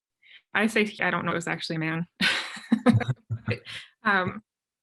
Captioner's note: laughs